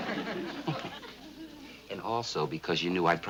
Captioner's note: laughing